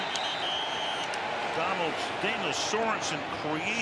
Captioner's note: whistle